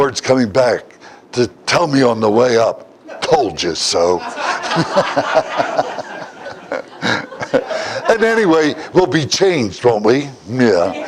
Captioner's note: Смех